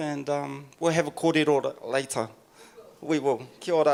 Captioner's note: speaking in foreign language